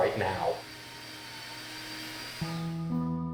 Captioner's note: drilling; soft music